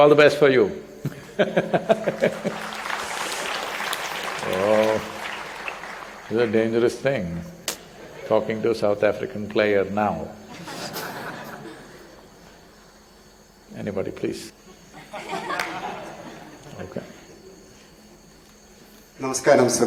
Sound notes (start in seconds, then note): 1.0 laughs; 1.9 applause; 11.7 laughter